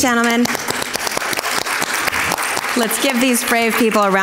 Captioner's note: crowd claps